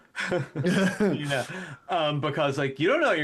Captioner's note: both Laughing